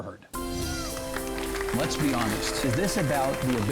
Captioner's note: applause